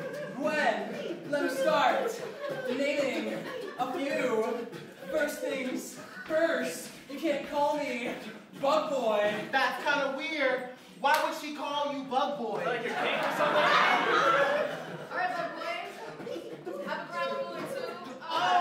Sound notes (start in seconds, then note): 12.6 laughter